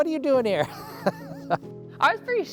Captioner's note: laughing